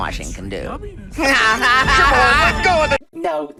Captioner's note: Paul Dobson villain laugh